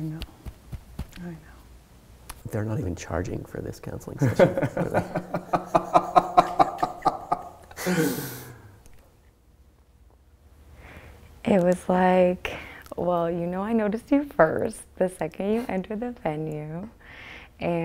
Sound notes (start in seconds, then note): 4.2 both laugh